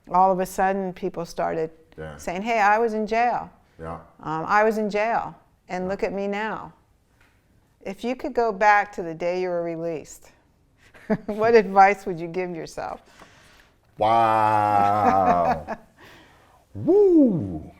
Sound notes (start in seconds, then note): 11.4 laughs